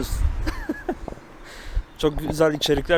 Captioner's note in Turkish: gülmek